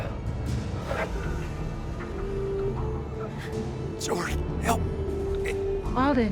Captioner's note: groaning; alden panting